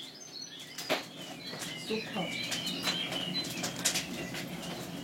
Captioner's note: crackling, birdsong